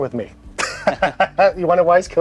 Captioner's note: both men laugh